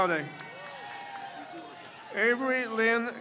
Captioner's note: crowd cheers